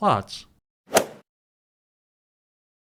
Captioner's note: swoosh